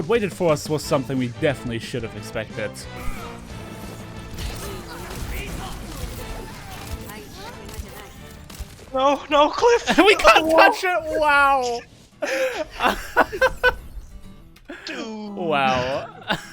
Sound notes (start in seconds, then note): 12.2 laughter